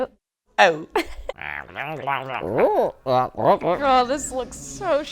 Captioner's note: mimicking alien noises